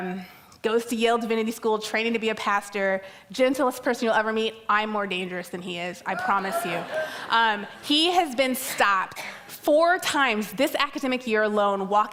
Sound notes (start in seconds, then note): 6.2 audience laughs